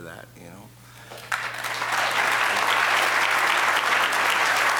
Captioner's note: audience applause